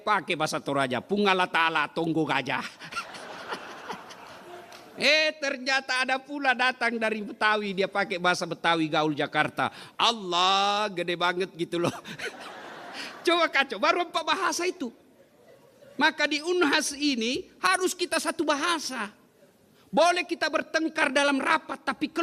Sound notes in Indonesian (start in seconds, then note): 11.9 tertawa